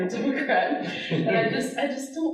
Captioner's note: audience laughing